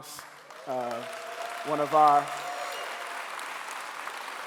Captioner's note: clapping